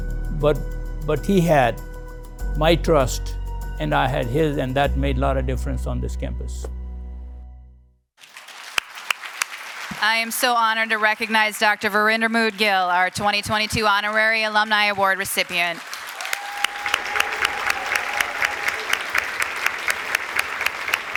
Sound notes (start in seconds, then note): 9.2 applause